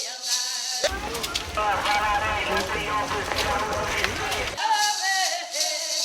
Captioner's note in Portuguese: Música , vozes e chocalhos; Passos, movimentações na viela e voz em megafone comercial; Música , vozes e chocalhos